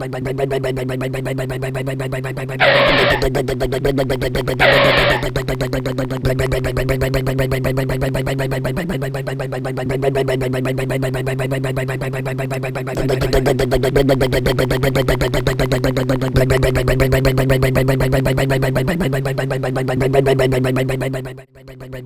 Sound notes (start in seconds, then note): 0.2 rumbling motor; 2.6 skid; 4.6 skid; 6.1 rumbling motor